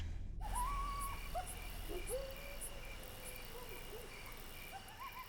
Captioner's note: coyotes howl; crickets chirping